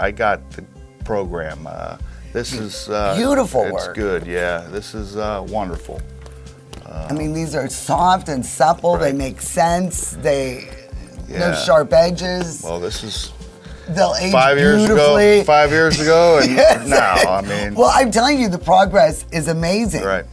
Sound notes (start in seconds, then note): 15.7 laughs